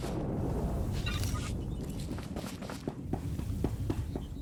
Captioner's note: explosion